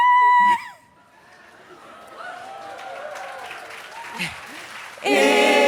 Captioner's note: applause